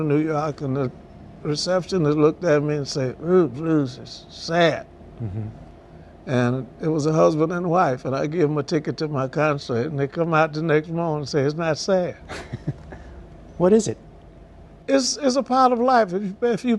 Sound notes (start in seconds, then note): 12.2 laughter